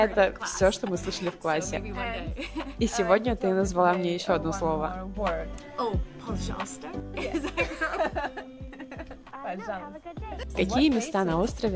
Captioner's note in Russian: смеется